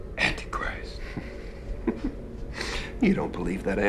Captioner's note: laughs